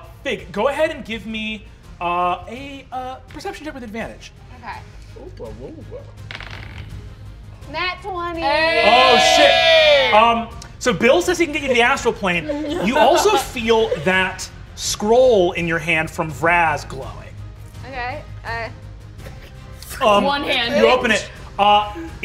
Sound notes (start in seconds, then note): 6.2 dice rolling